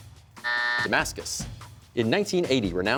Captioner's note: buzzer sounds